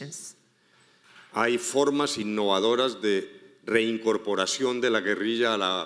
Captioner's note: speaking in foreign language